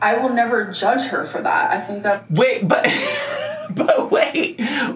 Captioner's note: laughing